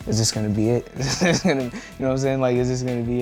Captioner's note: laughs